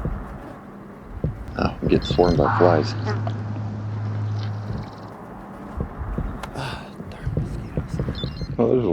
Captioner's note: buzzing